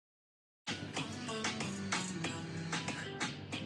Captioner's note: pat pat